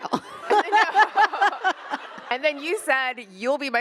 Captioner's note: attendees laughing; laughs